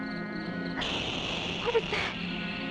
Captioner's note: tire hissing